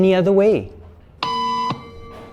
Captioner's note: beep